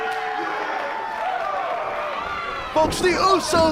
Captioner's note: crowd cheering